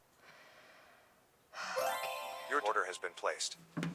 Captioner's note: computer chimes